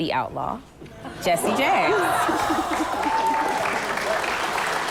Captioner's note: applause